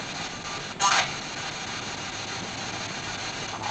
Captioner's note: RADIO "warning"